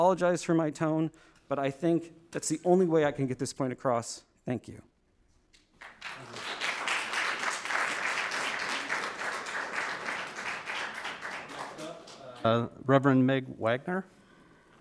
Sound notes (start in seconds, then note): 5.8 audience applauding